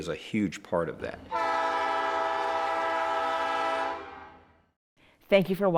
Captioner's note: train horn